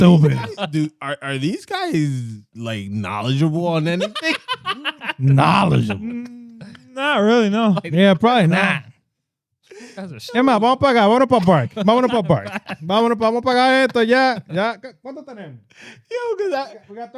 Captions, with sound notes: Are these guys knowledgeable on anything? (Laughing) Knowledge. Not really, no. Yeah, probably not. (Speaking In Foreign Language)